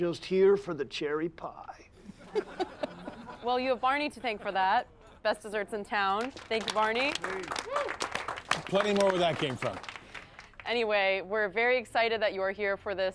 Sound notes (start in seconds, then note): 2.0 all laughing; 7.8 all applauding